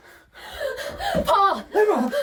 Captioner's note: panting